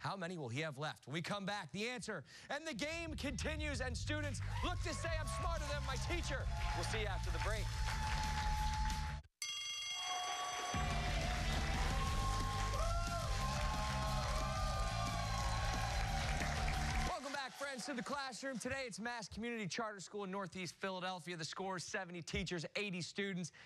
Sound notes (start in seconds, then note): 9.4 bell rings; 9.9 cheers and applause